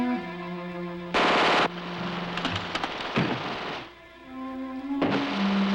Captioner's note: machine guns firing